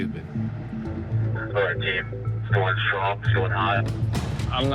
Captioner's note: man on radio